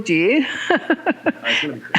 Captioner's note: laughing